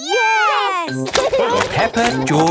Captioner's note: laughing